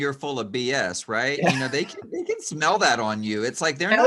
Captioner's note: laughs